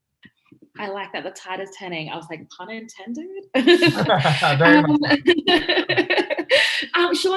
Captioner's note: all laugh